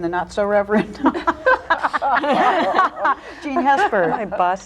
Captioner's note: all laughing